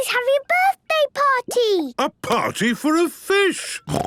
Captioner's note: snorting